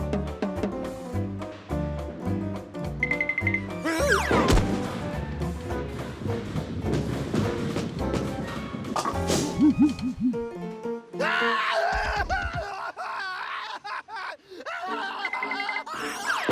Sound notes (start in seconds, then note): 11.2 wailing